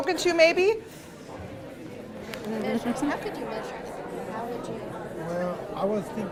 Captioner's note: backround talking